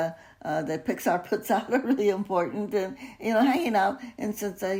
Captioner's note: chuckles